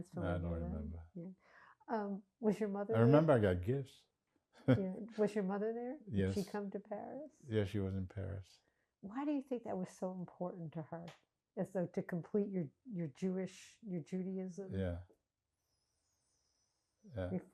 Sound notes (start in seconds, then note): 4.7 laughing